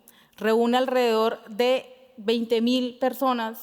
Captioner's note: speaking Spanish